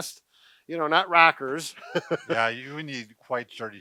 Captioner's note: chuckles